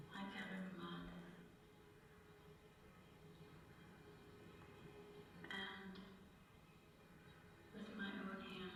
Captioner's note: echoing resonant voice